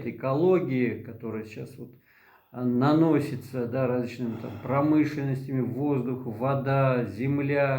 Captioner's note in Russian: откашливается